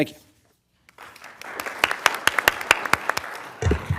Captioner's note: applause